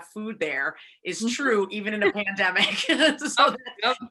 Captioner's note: laughs